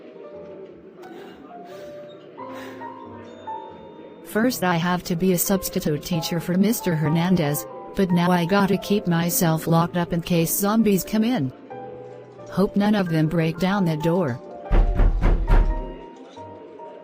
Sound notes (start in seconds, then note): 1.0 sighing; 14.6 slamming on door